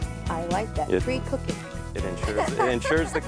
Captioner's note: laughs